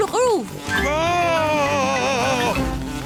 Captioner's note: screams